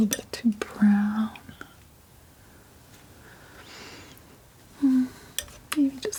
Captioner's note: tapping